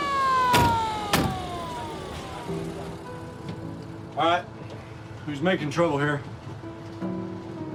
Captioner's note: doors close; siren wails